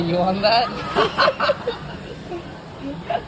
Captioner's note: laughs